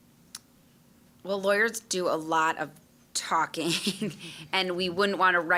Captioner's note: chuckling